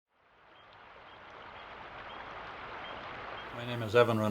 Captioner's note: water flowing; birds chirping